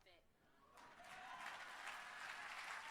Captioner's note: applause